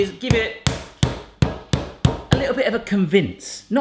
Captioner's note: banging chicken